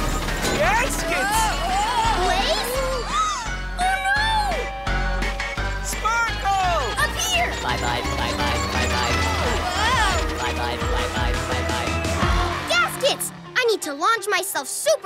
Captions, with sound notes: Gaskets! Blaze? [gasping] Oh, no! - Sparkle! - Up here! Bye-bye. Bye-bye. Bye-bye. Whoa! Bye-bye. Bye-bye. Bye-bye. Gaskets! I need to launch myself super high,